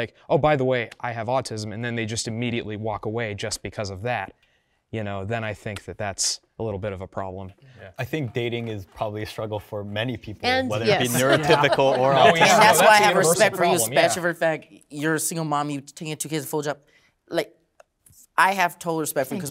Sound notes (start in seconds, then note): 10.8 laughing